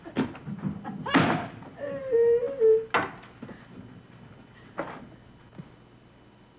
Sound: door slamming; crying

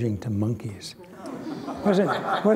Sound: laughter

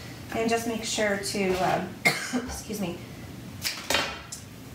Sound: coughs

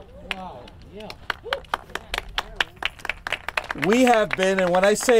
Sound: group clapping

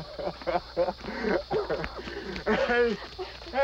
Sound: laughter

